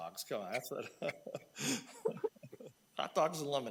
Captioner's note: laughing